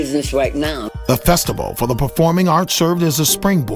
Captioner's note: voiceover